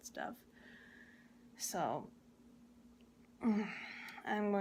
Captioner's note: grunts in pain